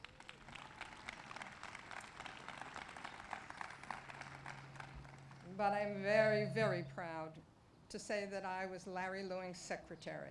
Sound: applause

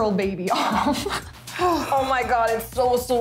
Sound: laughing

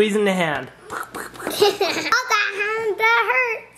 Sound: squeezing effects, then giggles

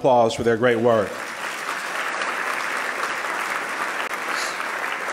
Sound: loud clapping

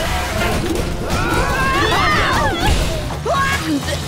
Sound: screaming

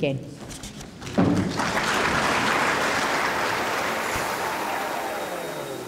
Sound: audience applause

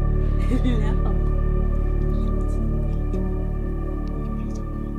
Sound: laughing

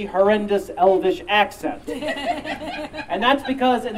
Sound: audience Laughing

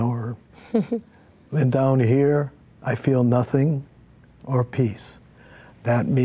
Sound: chuckles

